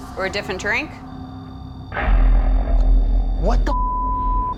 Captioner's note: beeping